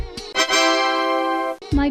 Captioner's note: tada!